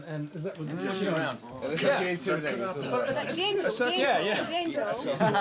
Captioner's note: chattering